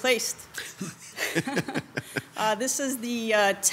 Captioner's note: members laughs